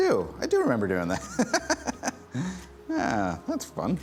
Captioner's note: laughing